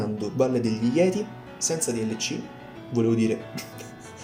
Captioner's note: chuckles